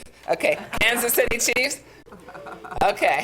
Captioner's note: audience laughs